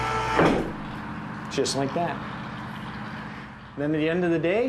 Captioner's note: motor whirring